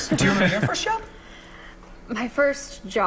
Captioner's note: laughter